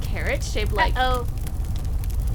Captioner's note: lightning; fire swelling, roaring